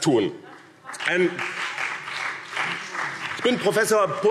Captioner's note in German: Vereinzelter Beifall BÜNDNIS 90/DIE GRÜNEN und CDU